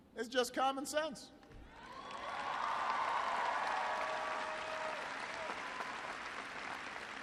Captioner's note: applause